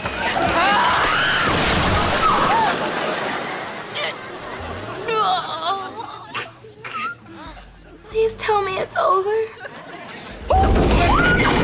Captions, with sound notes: [screaming] [gasping] [groaning] Please tell me it's over.